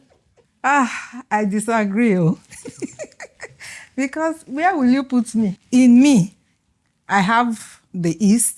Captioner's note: laughs